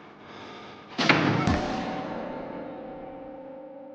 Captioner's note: door slams